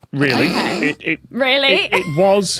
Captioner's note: snorts